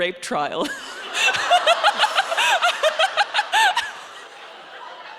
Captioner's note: audience laughing